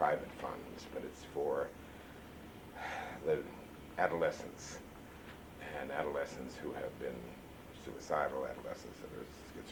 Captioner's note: sighs